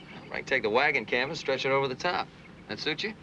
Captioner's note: none